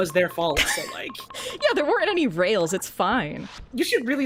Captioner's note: laughs